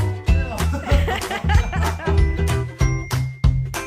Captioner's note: laughing